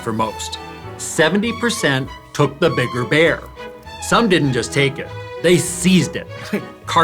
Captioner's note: laughs